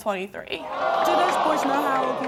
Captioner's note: in Unison